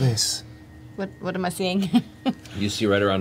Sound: laughs

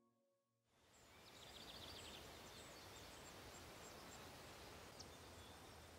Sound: insects chirping, birds trilling

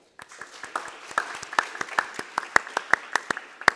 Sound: applause

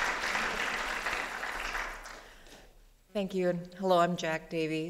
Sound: applause

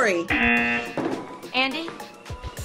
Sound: buzzer rings

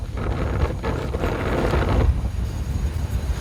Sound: sound of wind

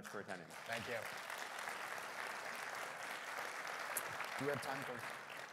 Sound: audience clapping

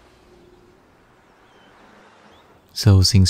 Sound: birds chirping

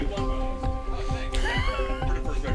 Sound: woman laughs

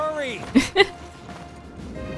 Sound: chuckle

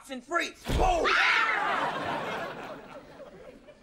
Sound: all yelling

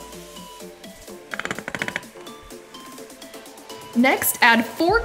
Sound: rattling

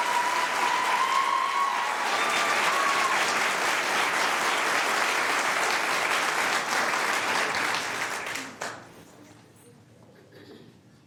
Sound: cheers and applause

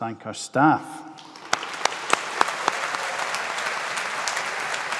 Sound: audience applauding

